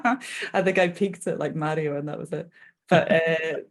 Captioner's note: laughing